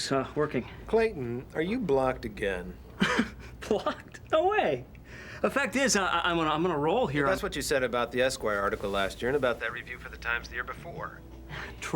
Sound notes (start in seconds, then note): 2.9 laughs